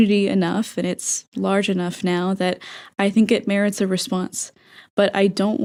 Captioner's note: inhale